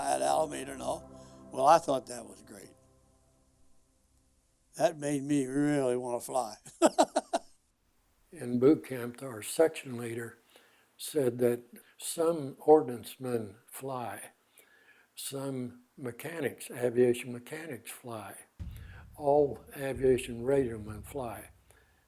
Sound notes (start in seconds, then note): 6.7 chuckling